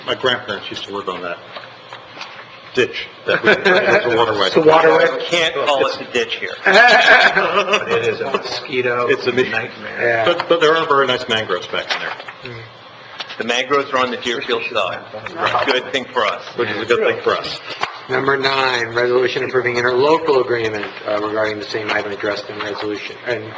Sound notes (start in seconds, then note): 3.2 laughing; 6.6 laughing